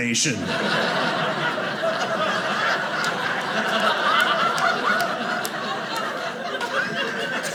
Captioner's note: audience laughing